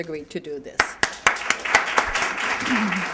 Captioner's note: applause